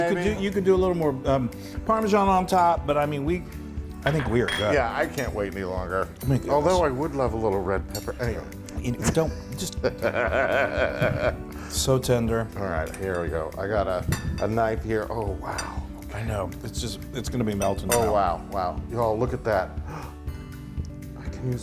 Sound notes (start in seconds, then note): 9.3 laugh